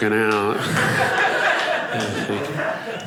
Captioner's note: audience laughing